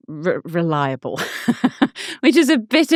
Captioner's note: laughing